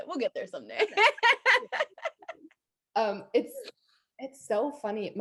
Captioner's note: both laughing